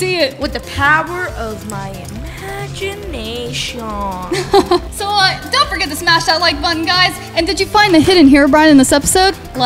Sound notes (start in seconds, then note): 4.2 laughs